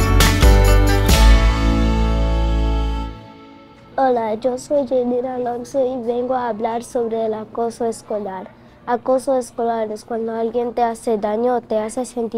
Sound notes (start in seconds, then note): 0.0 upbeat music; 4.0 speaking in a foreign language